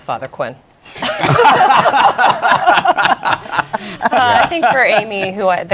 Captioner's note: laughter